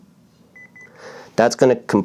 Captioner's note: beep beep